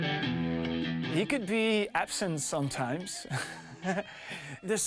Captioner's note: laughing